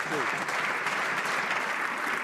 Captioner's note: some Applause